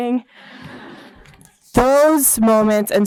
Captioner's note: laughter